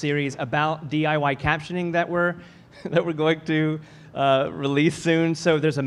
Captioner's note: laughs